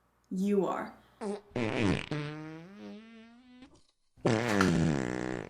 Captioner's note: Arizona farts